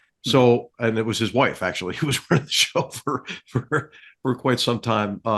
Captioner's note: laugh